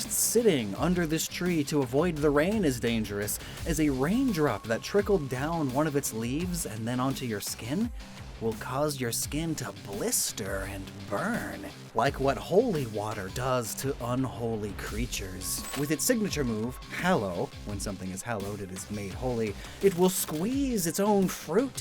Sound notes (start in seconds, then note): 15.5 glitch SFX